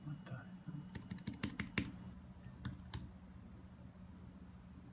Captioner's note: typing